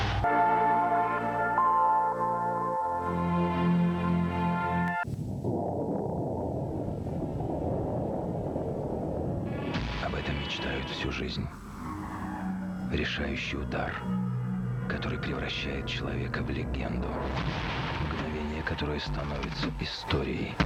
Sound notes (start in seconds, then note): 0.0 relaxing music; 5.1 the roar of the wind